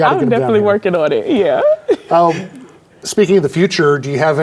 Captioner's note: chuckles